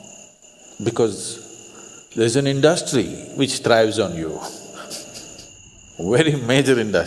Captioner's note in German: lacht